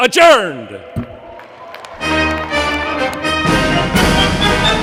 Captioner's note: applause